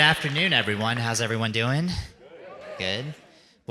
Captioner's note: audience murmuring